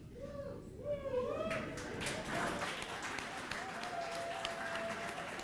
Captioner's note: audience cheering and applauding